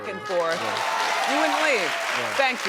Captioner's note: audience cheering